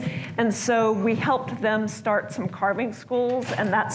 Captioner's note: none